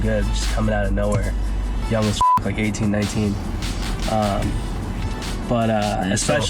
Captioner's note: beep